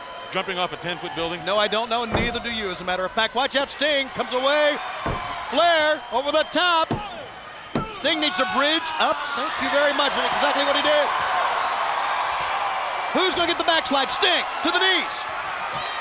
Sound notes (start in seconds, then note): 6.8 countdown thudding; 8.1 wrestlers groaning; 11.5 crowd cheering